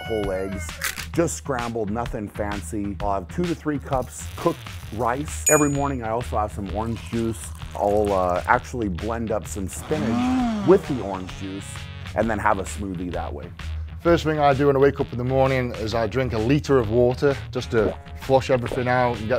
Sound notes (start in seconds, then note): 9.7 blender revving